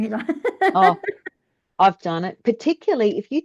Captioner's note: laughs